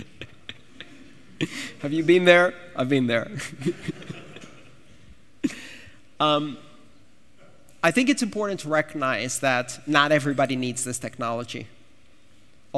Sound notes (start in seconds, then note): 6.5 laughter